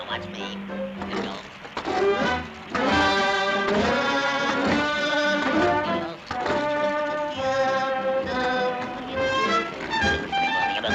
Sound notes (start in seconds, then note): 2.5 Popeye humming